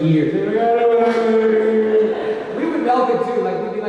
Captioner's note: imitates crying child